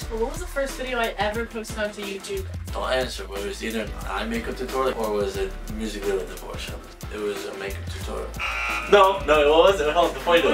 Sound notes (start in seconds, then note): 8.4 buzzer